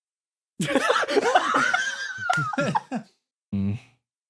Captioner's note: laughs